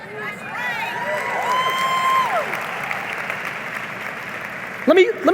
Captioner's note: audience cheering and applauding